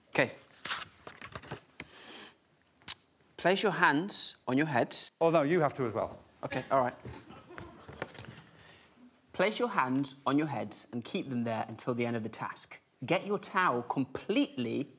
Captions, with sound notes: Off you go, Munya. Okay. [paper tearing] "Place your hands on your head." Oh, no, you have to as well. Okay, alright. "Place your hands on your heads and keep them there until the end of the task.